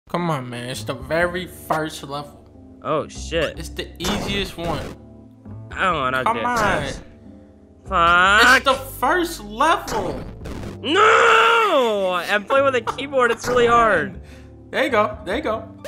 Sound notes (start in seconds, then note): 11.3 frustrated